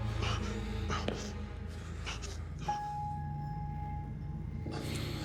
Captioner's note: Adam panting